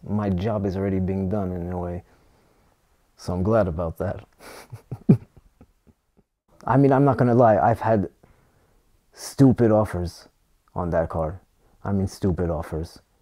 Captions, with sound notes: my job is already being done in a way So I'm glad about that. [Laughs] I mean. I'm not gonna lie I've had stupid offers on that car. I mean stupid offers.